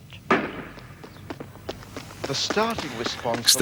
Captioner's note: starter's pistol fires